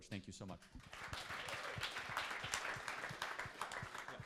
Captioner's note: applause